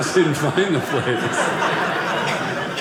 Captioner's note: audience laughing